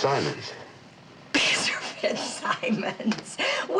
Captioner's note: chuckling